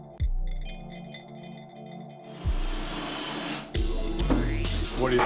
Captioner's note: drilling